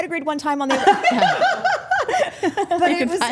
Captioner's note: group laughing